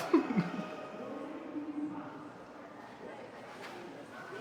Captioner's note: laughs